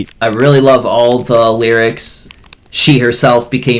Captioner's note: none